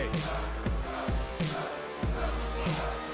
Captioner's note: fans chanting